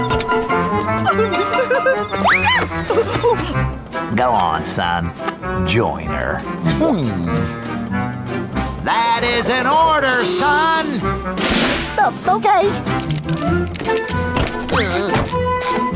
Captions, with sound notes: [laughing] Go on, son, join her. Hmm. That is an order, son! Uh, okay. [seat belt unclicking]